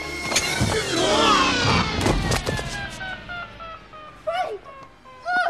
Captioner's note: machine whining